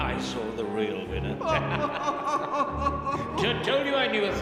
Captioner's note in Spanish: riendo